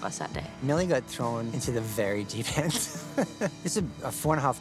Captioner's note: chuckles